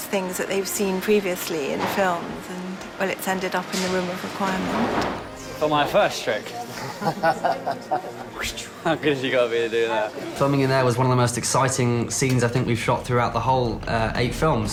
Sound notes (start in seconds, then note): 6.7 man laughs